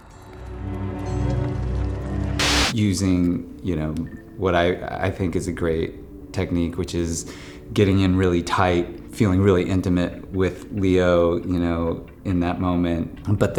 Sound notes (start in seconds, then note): 0.0 gentle morose music; 2.4 screen buzzes